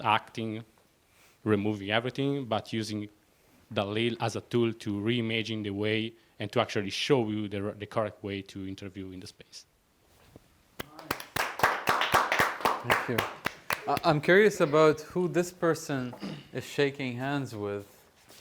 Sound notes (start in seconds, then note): 10.8 applause